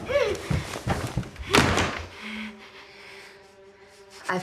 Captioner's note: breathing heavily; muffled gasping